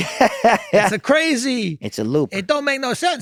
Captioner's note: Glenn laughs